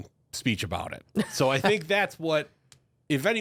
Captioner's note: laughs